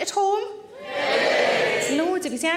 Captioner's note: audience cheering